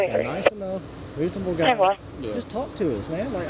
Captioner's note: radio chatter